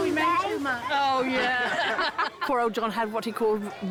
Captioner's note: laughter